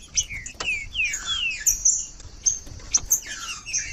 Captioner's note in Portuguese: trinca ferro cantando